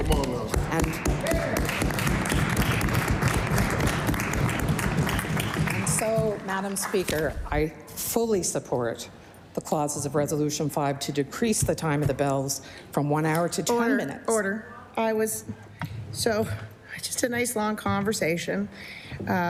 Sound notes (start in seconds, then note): 4.9 applause